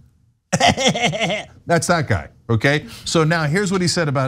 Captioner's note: laugh